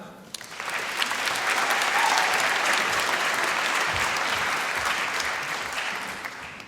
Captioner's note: applause